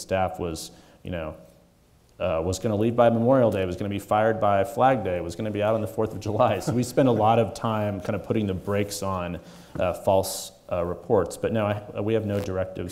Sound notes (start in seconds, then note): 6.9 chuckling